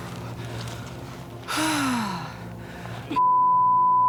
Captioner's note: sighs; beep